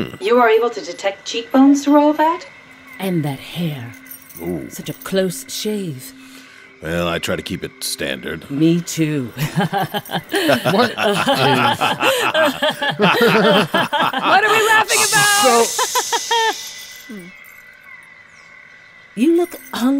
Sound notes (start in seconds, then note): 10.8 laughs